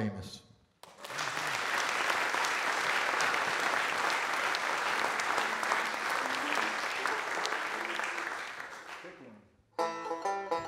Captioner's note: audience Applause